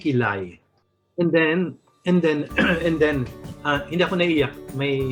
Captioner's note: clears throat